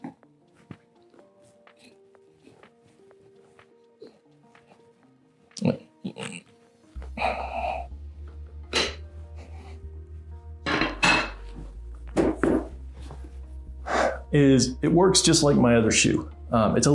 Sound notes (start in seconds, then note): 10.6 shoe horn clattering; 12.1 shoe thumping